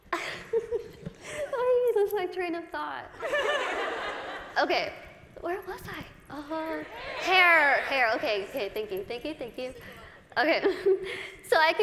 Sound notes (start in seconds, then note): 0.1 laughs; 3.2 laughter